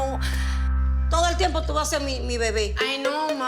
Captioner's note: speaking Spanish